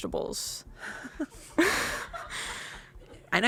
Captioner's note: crew laughs